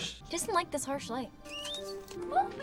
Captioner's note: lamp squeaks